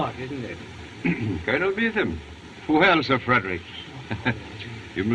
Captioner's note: chuckles